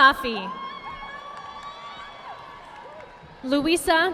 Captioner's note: audience applauding